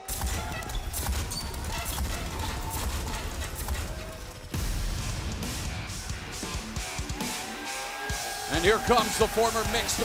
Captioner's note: crowd cheering